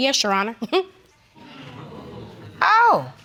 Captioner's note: chuckles; audience exclaiming